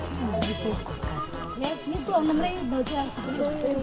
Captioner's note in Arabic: متحدثا بلغة أجنبية; بالثرثرة بلغة أجنبية